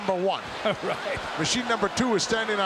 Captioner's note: chuckles